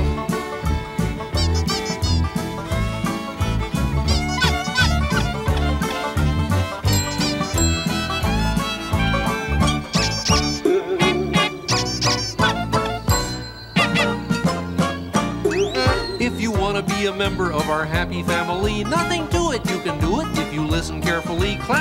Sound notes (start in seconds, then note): 0.3 country music playing; 4.6 honks, squeaks, dings; 11.0 boing; 11.6 honks, squeaks, ding; 15.5 boing